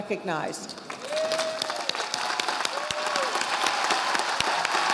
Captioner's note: audience applauding